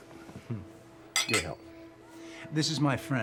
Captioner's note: glasses clinking